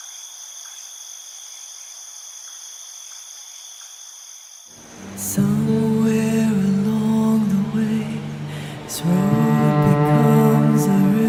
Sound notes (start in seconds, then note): 0.0 crickets chirping; 4.9 soft music begins